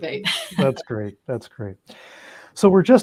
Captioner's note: chuckles